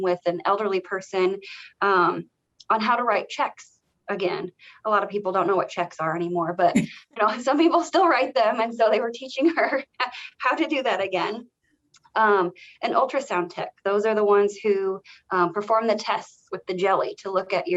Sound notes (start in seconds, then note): 7.0 chuckles